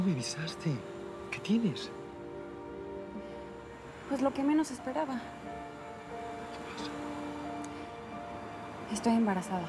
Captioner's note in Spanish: susurra